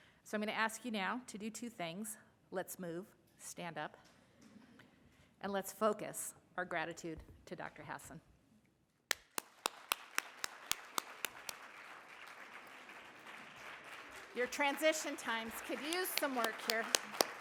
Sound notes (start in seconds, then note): 9.1 everyone applauding